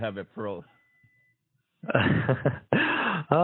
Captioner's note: laughs